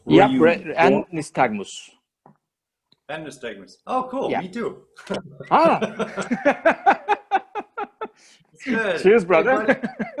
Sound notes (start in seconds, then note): 5.5 both laughs